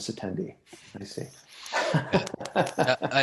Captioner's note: laughs